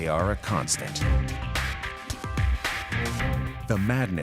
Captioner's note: none